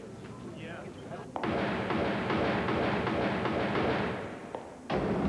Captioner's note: gunfire